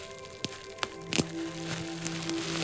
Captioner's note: popping & crinkling; moaning; crinkling